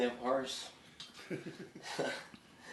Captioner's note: chuckling